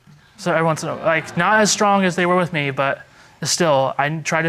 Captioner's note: stammering